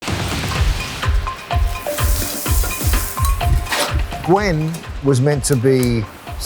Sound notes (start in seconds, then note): 0.0 upbeat music; 2.1 food sizzling